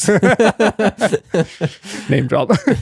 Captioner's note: laughing